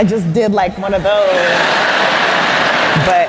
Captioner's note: laughter